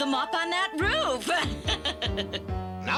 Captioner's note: evil laugh